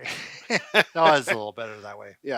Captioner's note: laughs